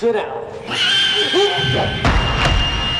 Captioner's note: Buddy squeals sharply; thud